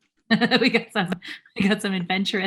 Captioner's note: laughing